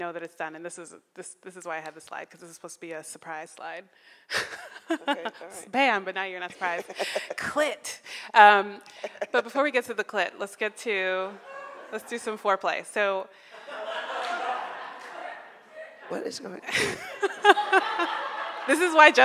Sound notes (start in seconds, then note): 4.4 laughs; 13.5 audience laughing; 16.7 laughing